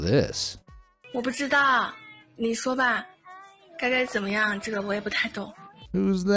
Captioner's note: speaking in foreign language